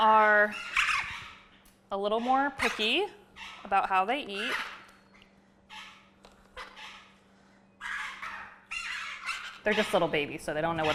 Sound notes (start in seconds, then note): 4.2 birds chirping